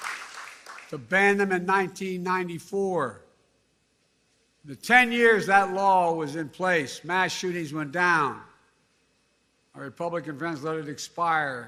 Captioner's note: cheers and applause